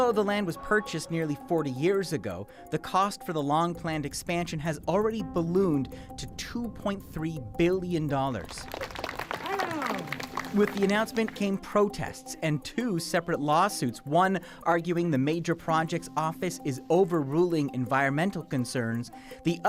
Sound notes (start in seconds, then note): 10.9 applause